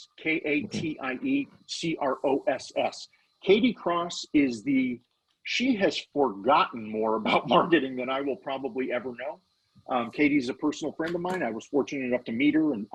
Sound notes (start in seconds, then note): 5.5 laughing